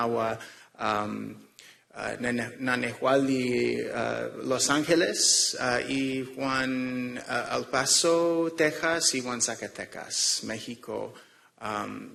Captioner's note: speaking non-english